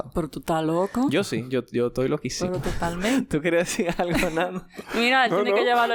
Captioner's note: laughs